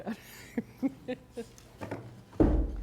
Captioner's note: laughter